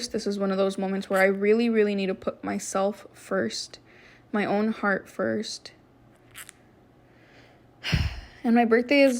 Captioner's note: sighs